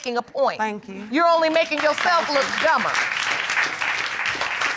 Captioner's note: audience applauding